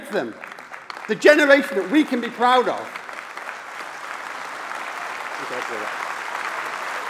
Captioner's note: applause